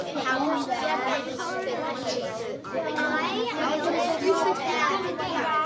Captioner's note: children chattering continues